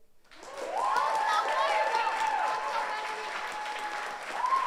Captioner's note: audience cheers